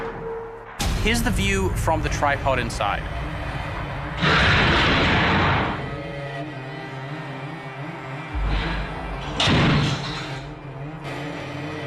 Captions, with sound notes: Here's the view from the tripod inside. [door opens]